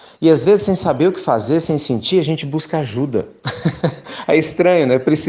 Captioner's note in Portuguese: Risos